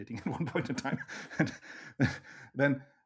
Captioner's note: laughs